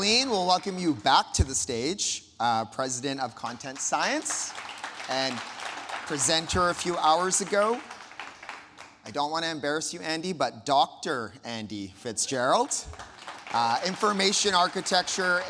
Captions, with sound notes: Colleen, we'll welcome you back to the stage, President of Content Science and presenter a few hours ago. (audience applauding) I don't wanna embarrass you Andy, but Dr. Andy Fitzgerald, Information Architecture